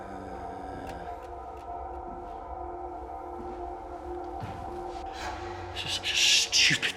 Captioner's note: Danny hums; ominous music continues